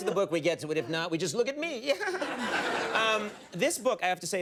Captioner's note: giggles